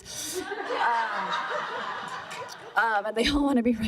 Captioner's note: laughter